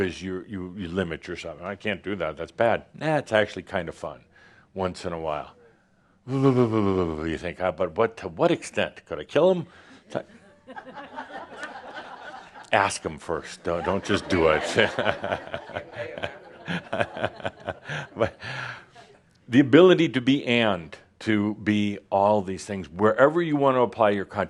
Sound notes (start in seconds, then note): 12.0 some chuckles; 17.9 more chuckles